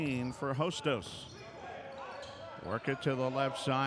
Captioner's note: shoes squeaking; yelling